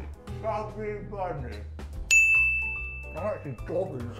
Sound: ding

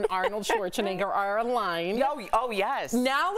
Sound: laughter

